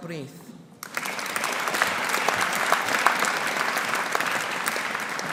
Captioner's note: audience applauding